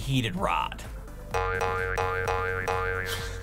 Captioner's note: boing Noises; giggle